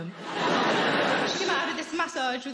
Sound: audience laughing

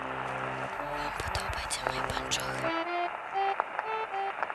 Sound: whispering

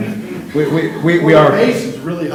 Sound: laughter

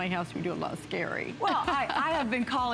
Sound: laughter

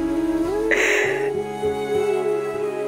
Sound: sobbing

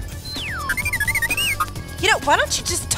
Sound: droid beeps

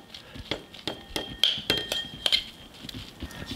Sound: spoon clicks

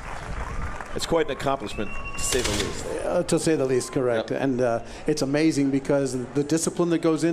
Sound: applause

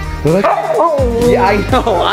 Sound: Luna howling

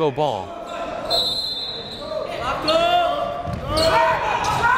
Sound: whistle blows

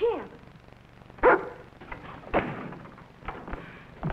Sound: barks

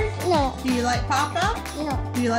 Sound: voiceover

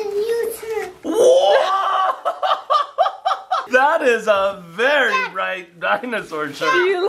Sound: laughs

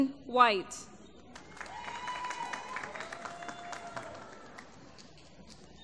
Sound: applause

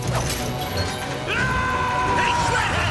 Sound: screaming

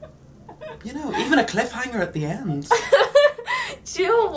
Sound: laughs

